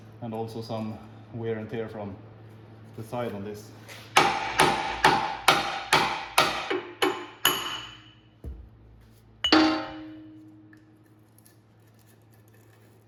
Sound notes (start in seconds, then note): 4.1 hammering